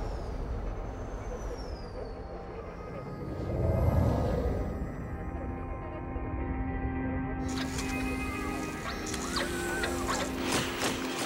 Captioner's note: tools whirring